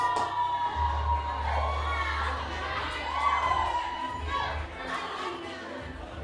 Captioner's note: cheering, applause in background